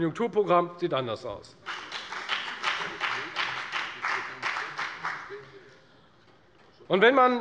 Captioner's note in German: Beifall bei der FDP